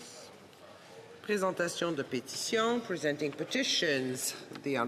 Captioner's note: speaking French